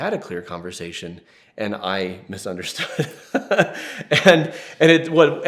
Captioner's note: laughs